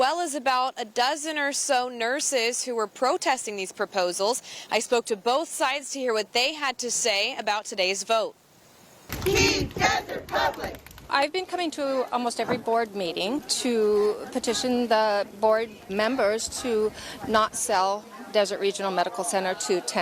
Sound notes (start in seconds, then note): 10.8 sound from the protest